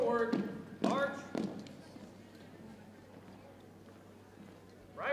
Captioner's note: boots thumping